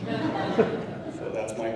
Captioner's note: laughing